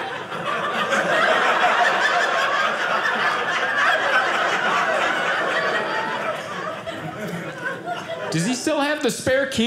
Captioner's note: audience laughing